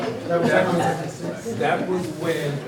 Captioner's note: audience chatters